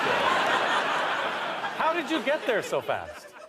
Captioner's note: audience laughter